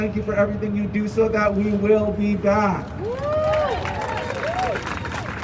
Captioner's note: crowd cheering